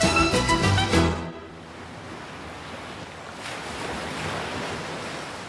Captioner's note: song ends, waves crashing